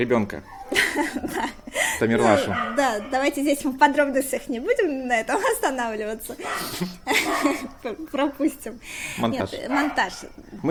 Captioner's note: laughing